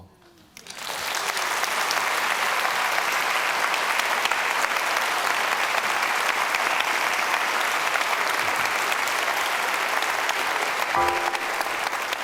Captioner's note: applause